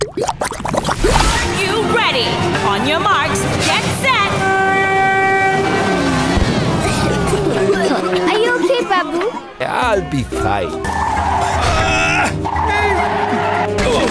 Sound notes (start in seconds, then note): 4.6 horn blaring; 5.6 revving; 6.8 coughing; 9.6 chuckling; 10.6 tires screeching